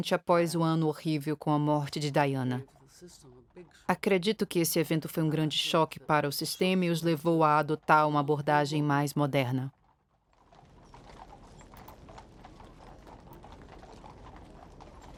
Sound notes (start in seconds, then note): 11.8 horses trotting